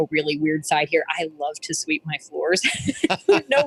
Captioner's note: laughs